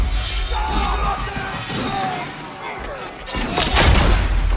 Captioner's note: men yelling